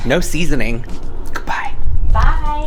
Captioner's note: whispering